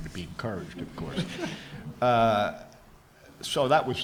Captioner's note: audience laughs